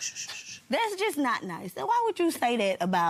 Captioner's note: shushing